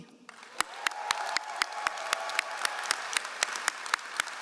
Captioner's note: all applauding